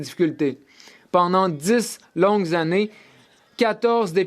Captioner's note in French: voix de l'interprète